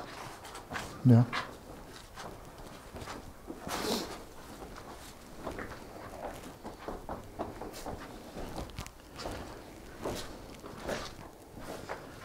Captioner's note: footsteps and wind in the background